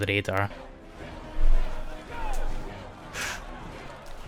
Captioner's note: mob noises